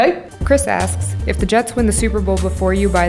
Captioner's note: voiceover